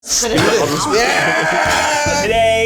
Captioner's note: all yelling